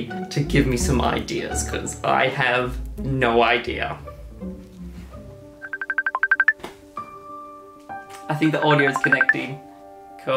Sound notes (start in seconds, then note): 5.1 gentle music; 5.6 phone rings